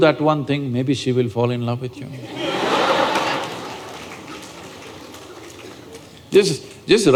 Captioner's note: laughter